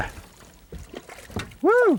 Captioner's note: splash